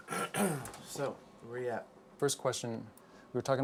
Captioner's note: clears throat